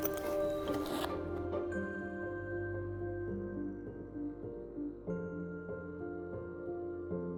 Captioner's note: zipper zips; bright gentle music